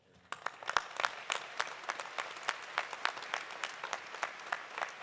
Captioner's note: audience applauding